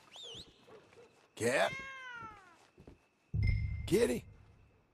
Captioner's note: calls a nearby cat